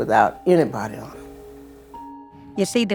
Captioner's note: soundbite of archived recording